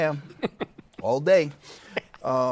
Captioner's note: laughs